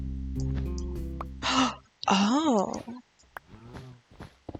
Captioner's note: gasp